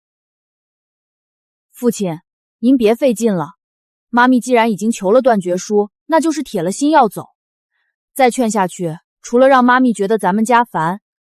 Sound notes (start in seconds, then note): none